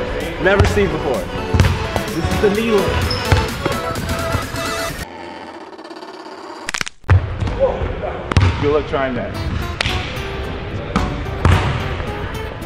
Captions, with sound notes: (upbeat music) Never seen before. This is the needle. (ankles snap) - Good luck trying that. (silly music)